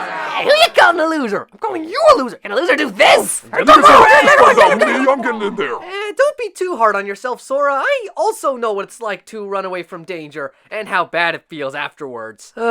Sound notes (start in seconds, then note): 3.6 epic fight noises